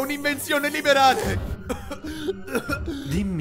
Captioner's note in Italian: un po' di tosse